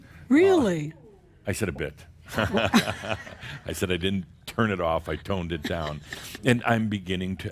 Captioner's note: audience chuckles